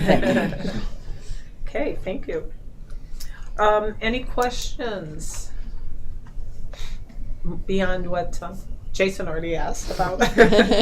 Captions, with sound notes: You pick. Okay, thank you. Any questions beyond what Jason already asked about? (laughing)